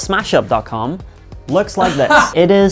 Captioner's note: laughing